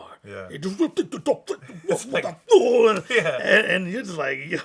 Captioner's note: imitating French rappers